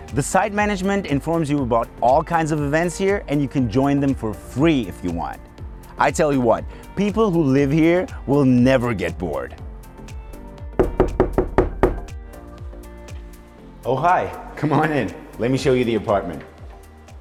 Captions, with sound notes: The site management informs you about all kinds of events here and you can join for free if you want I tell you what! People who live here will never get bored! [Knocking sounds] Oh hi! Come on in! Let me show you the apartment.